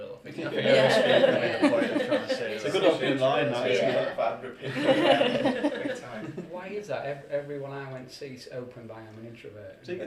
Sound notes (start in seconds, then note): 4.6 laughter